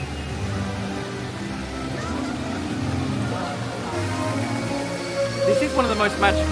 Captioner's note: bright music; fountains gushing